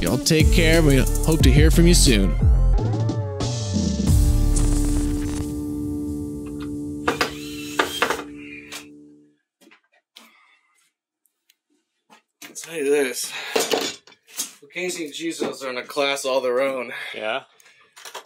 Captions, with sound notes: Y'all take care, we hope to hear from you soon. (saw revving) I'll tell you this. Amazing Chisos are in a class all their own. - Yeah?